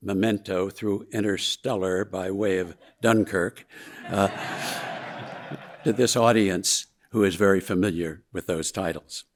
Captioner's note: audience laughing